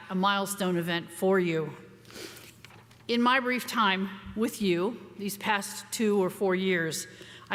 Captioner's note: none